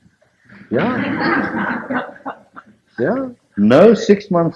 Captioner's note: laughter